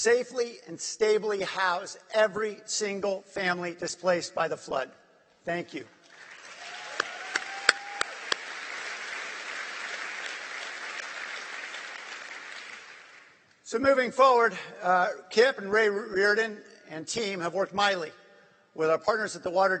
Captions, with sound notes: FLOOD. THANK YOU. [APPLAUSE] >> SO MOVING FORWARD KIP AND RAY RIORDAN AND OUR MEMBERS AT THE